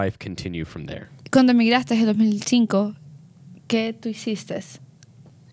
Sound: speaks in Spanish

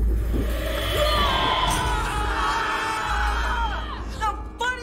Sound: screaming; shouting

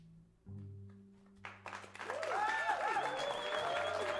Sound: cheers and applause

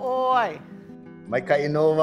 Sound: in Hawaiian language

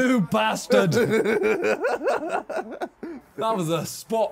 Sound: laughs

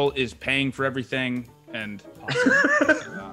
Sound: laugh

